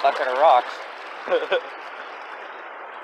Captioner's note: laughs